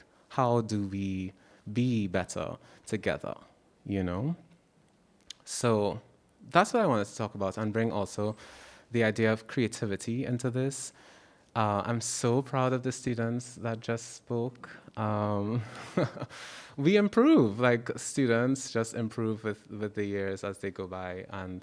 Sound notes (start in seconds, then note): 16.1 laughs